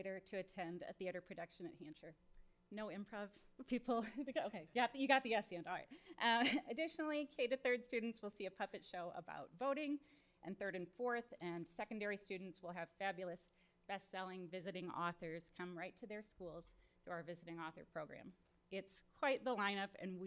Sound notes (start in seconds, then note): 3.8 chuckles